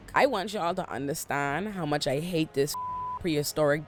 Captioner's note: beep